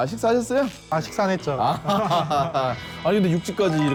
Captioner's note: awkwardly Laughing